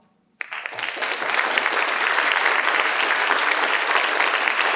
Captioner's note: participants clap